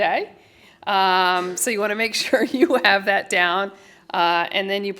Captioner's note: laughter